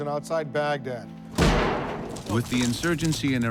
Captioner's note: loud bang